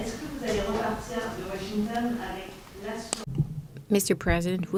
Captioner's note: speaks French